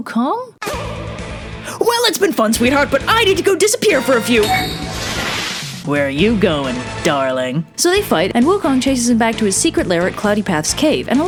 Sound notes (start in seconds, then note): 0.2 dramatic music; 4.2 transformation noise